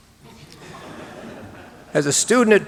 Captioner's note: audience laughing